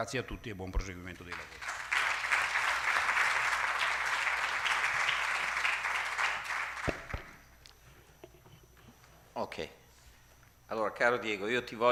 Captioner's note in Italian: Applauso